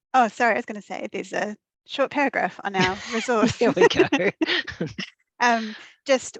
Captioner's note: laughing